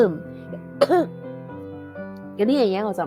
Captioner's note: real cough OAQ